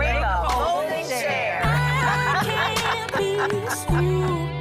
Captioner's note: laughing